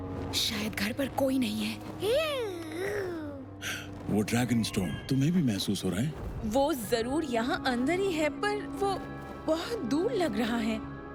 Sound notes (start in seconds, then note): 1.9 burbling; 2.7 Spike gasps